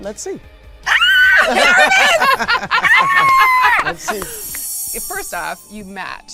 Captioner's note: laughing